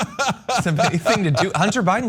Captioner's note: laugh